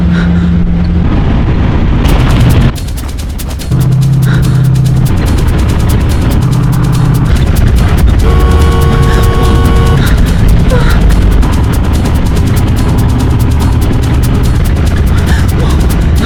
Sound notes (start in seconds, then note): 8.2 car horn honks